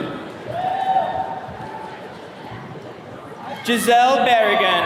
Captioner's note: attendees cheering